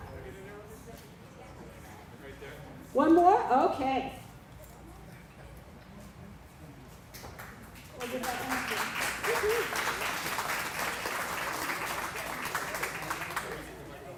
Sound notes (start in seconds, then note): 4.2 applause